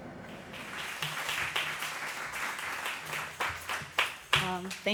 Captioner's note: applause